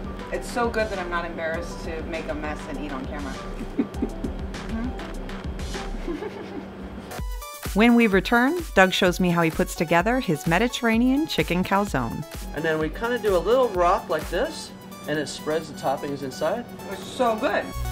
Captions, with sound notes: It's so good that I'm not embarrassed to make a mess and eat on camera. (laughter) When we return Doug shows me how he put's together his Mediterranean chicken calzone. And then we kinda do a little rock like this. And it spreads the toppings inside. Its so good!